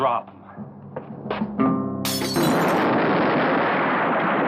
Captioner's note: glass breaking; explosion